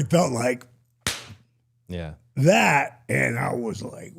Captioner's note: smacks hands